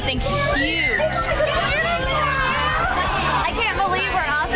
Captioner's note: women cheering